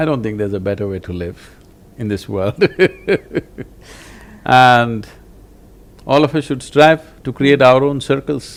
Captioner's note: laughs